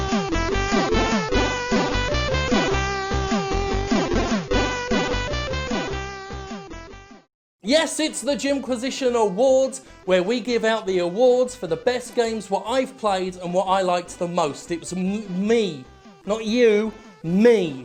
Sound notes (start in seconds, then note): none